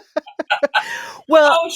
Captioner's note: laughter